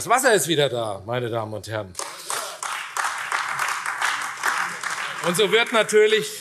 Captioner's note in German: Beifall : Hört, hört!